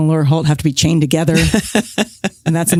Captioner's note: laughs